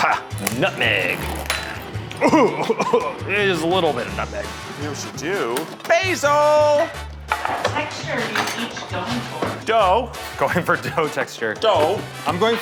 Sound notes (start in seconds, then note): 0.0 coughs